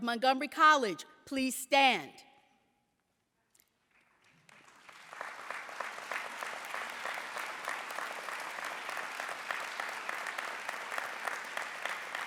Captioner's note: applause